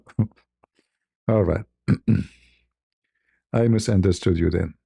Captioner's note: berdehem